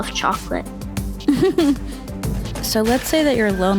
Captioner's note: chuckles